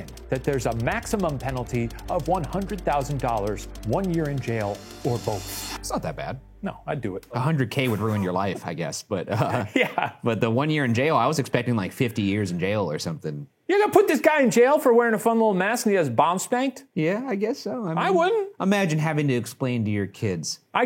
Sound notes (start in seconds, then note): 9.0 scoffs; 9.3 laughs